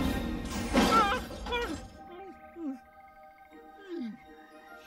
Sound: gasps, whimpers

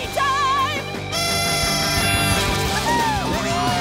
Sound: blowing horn

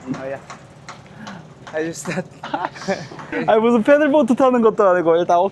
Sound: laughs

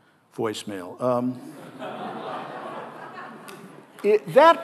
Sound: audience laughing

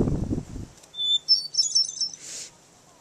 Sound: wind; birds chirping

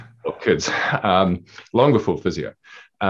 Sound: laughing

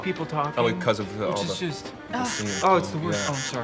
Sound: phone vibrates

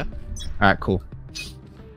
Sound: sniffs

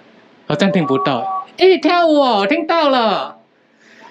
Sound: speaking in Taiwan language; speaking in Chinese

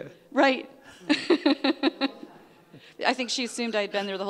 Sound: laughing

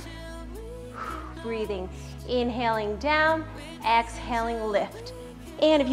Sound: exhales

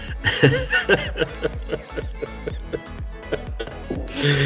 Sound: laughing

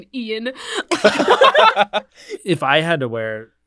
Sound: all laugh

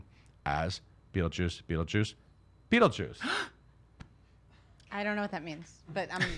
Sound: gasp

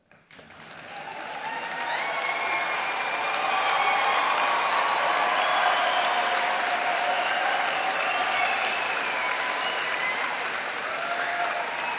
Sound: applause

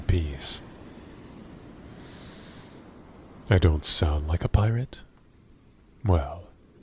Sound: taking a deep breath through nose

